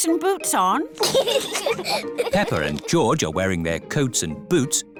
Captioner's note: both giggle